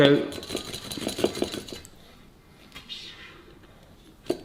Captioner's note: paper scratching